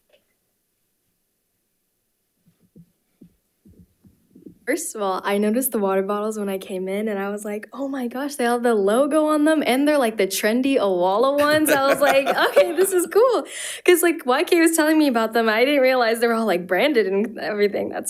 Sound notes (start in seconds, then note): 11.4 board Members laughing